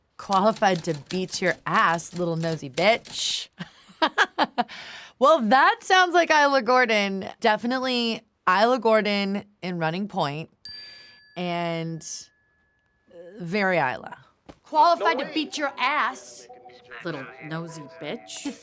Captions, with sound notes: "Qualified to beat your ass, little nosy bitch." (Kate laughs) Well that sounds like Isla Gordon. Definitely Isla Gordon in "Running Point." (tone dings) And very Isla. Qualified to beat your ass, little nosy bitch.